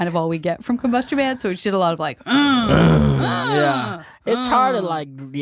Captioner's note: both grunting